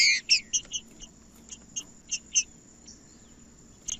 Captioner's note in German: trinca ferro cantando